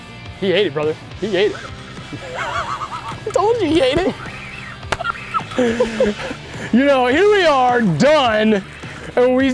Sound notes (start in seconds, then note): 1.9 reel spinning; 3.9 both laughing